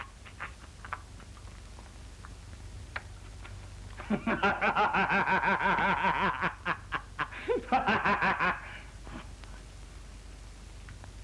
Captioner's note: maniacal laughter